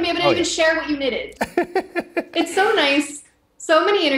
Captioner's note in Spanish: risas